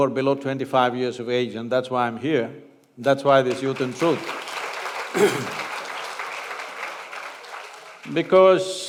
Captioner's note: applause